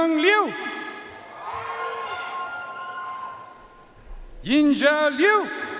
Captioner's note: audience cheering and applauding